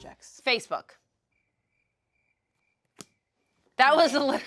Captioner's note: crickets chirp